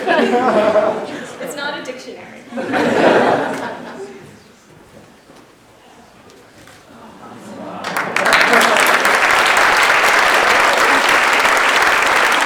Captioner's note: laughter